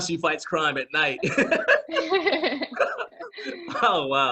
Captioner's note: both laughing